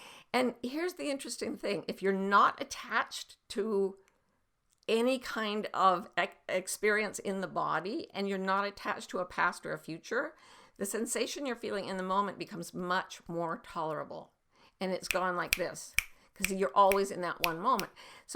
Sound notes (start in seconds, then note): 16.8 snapping fingers